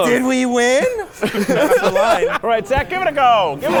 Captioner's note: people laughing